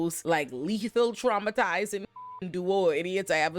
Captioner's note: beep